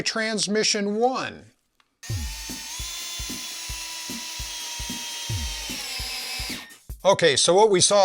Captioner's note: drill noises